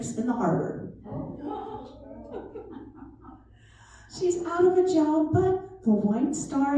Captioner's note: laughter